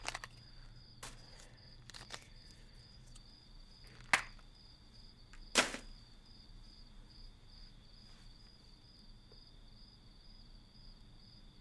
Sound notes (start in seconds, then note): 5.5 phone lands in garbage